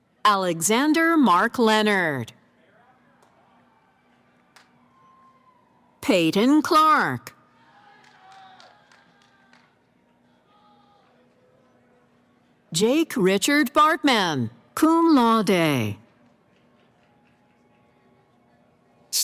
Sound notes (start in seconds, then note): 7.4 cheering